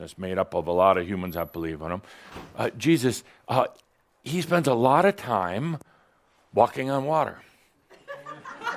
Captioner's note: laughter